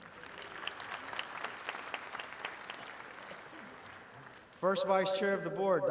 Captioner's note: audience applauding